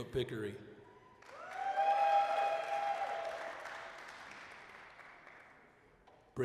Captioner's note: applause, cheering